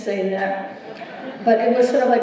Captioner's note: laughter